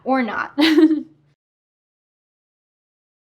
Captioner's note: chuckling